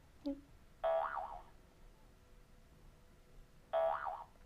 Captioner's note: boing